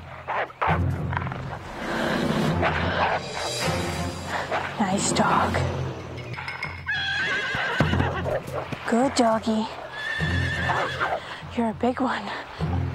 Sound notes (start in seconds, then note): 0.0 wolf barks; 5.6 wolf growls; 6.4 horse neighs